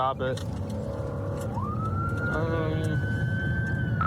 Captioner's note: siren wailing